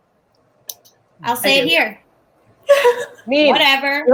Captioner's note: laughs